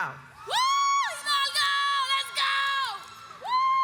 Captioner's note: cheers